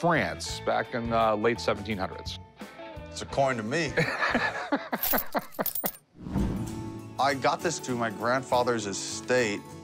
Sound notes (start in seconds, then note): 4.0 laughs